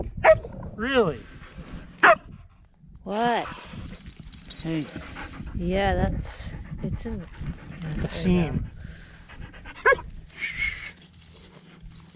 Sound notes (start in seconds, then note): 0.2 Laika barking; 2.0 barks; 9.8 Laika barks